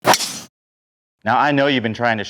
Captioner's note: ball cracking